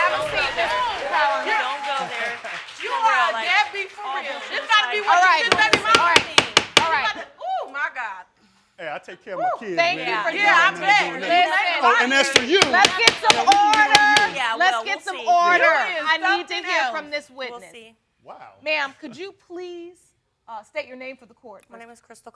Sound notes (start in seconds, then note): 5.4 bangs gavel; 10.4 all yelling